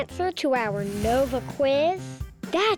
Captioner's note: whooshing sound